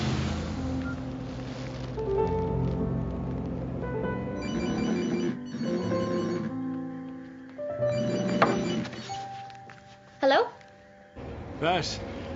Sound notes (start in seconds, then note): 1.0 beep; 4.3 cellphone rings and vibrates; 8.5 taps